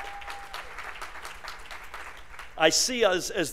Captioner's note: applause